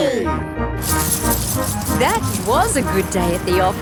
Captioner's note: coins jingling